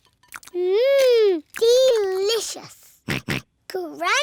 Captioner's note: george oinks